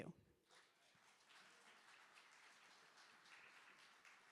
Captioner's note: applause